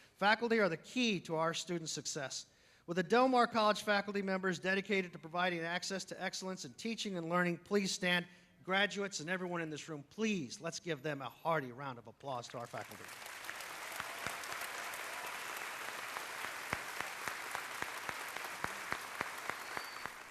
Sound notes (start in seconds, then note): 12.5 applause